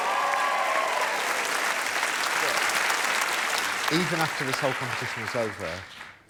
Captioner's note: applause